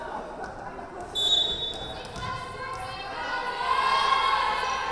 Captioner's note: whistle blowing